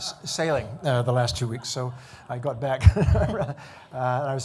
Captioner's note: laughing